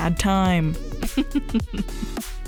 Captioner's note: laughs